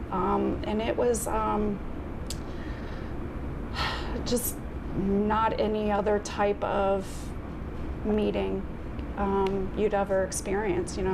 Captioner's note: deep breath